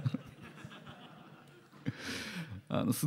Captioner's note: laughter